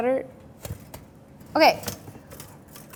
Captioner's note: rattling